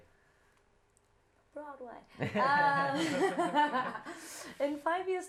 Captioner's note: whispers; laughter